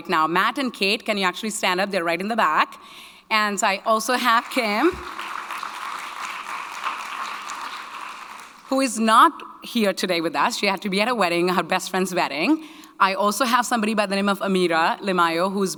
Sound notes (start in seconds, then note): 4.2 audience clapping